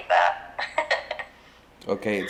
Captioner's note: giggling